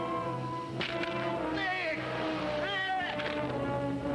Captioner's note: ground cracks